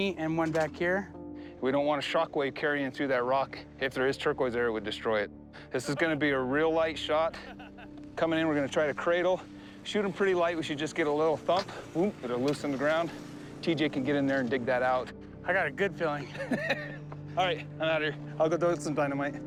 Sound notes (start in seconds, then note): 16.2 laughs